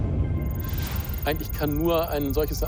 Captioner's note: speaks in foreign language